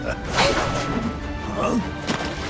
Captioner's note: evil laugh; battle grunts; grunt of surprise